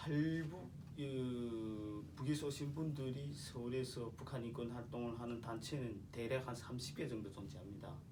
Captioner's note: speaking korean